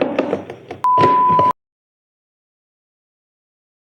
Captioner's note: beeps